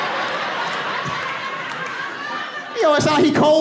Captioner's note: in trembly voice